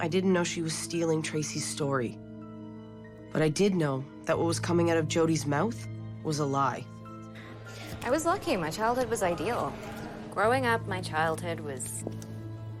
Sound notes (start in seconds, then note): none